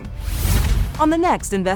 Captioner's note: screen whooshes